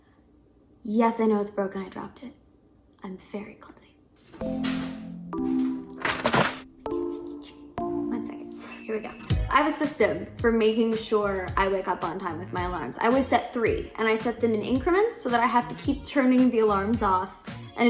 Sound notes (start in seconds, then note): 4.4 cheerful electronic music; 5.5 paper rustling; 6.8 cheerful electronic music